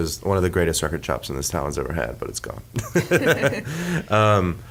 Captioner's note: laughs